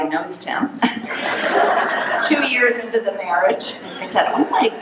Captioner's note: audience laughing